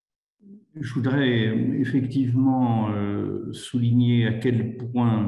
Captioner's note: speaks in foreign language